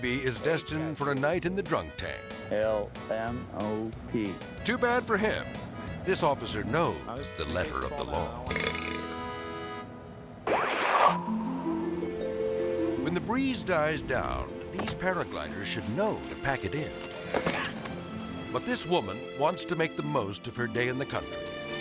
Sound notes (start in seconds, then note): 8.5 drunk belching; 8.8 harmonic music; 10.4 screen static; 11.7 tranquil music; 17.3 glider moaning